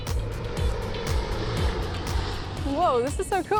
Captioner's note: airplane engine roaring